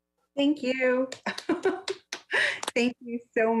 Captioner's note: members applauding; laughs